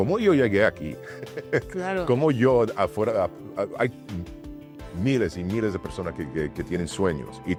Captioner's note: laugh